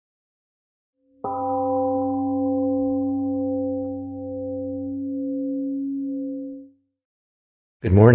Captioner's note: temple gong rings and fades